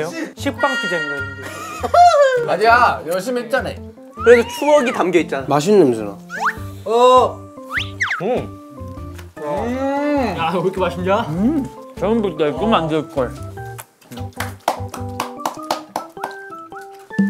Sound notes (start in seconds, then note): 7.6 munching & crunching; 13.7 clapping quietly